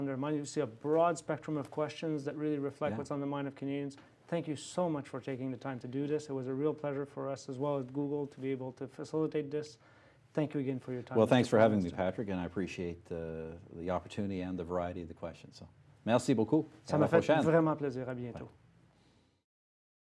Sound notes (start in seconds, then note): 15.9 speaking French